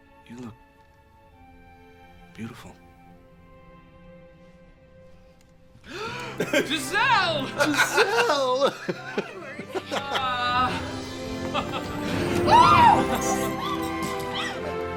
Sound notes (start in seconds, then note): 5.9 gasps